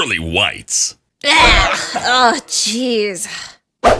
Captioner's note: gags